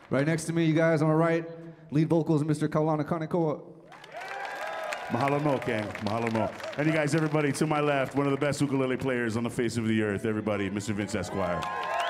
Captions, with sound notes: - Right next to me, you guys, on my right, lead vocals, Mr. Kaulana Kanekoa. [audience applauding] - [speaking Hawaiian] And you guys, everybody, to my left, one of the best ukulele players on the face of the earth, everybody. Mr. Vince Esquire.